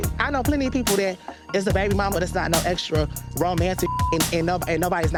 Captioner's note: beep